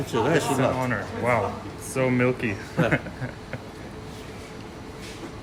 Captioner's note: chuckles